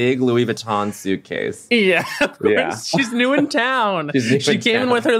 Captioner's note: laughs